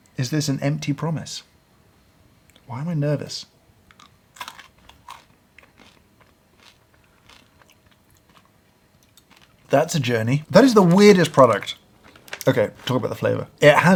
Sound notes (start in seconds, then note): 4.3 crunching